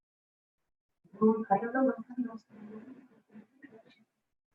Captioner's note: chanting quietly